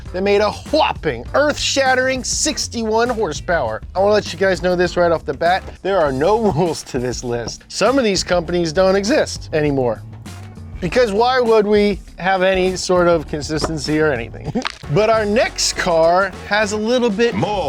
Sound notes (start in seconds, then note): 14.4 neck cracking